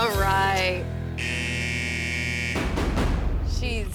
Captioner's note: scoreboard buzzer blaring